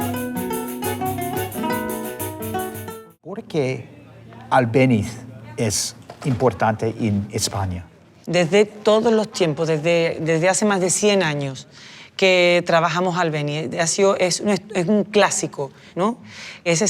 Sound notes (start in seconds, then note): 3.2 speaks Spanish